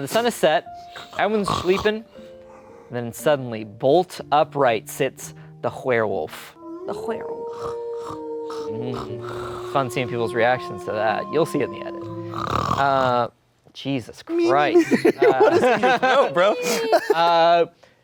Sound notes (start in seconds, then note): 6.5 werewolf howling; 12.3 snoring